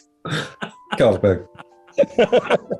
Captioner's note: laughing; laughter